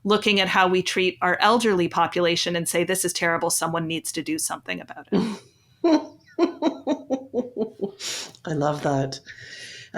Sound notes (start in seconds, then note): 5.8 chuckles